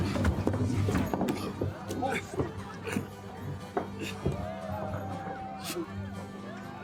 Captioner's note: Pinkerton Agent McGuire grunting softly